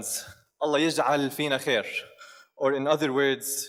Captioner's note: speaks in foreign language